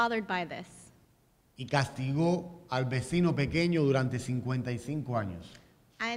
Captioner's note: speaking in Spanish